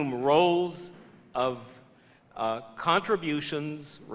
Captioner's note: none